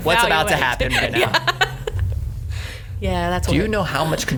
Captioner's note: laughing